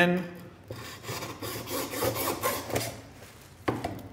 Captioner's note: saw scraping